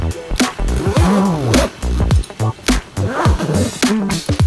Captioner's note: funk playing loudly; zipper; funk playing loudly